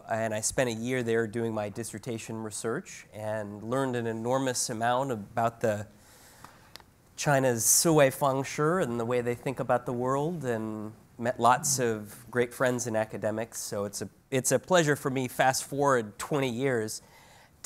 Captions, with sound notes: and I spent a year there doing my dissertation research, and learned an enormous amount about the, China's (speaks Chinese), and the way they think about the world, and met lots of great friends in academics, so it's a pleasure for me fast forward 20 years,